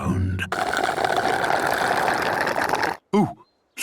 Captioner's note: slurping